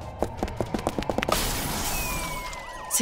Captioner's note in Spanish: rompe una ventana